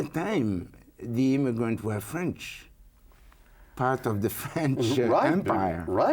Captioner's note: chuckles